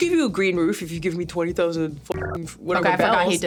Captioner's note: buzzing